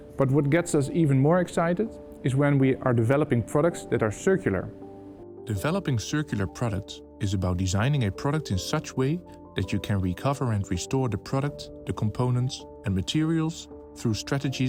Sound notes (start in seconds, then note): 5.5 voiceover